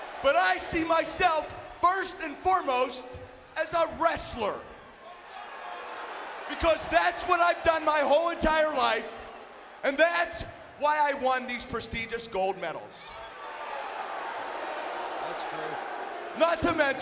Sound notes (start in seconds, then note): 5.1 audience booing; 13.2 audience booing